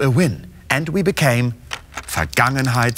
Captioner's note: speaking german